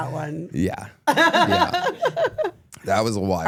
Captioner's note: laughs